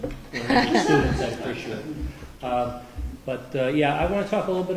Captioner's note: laughter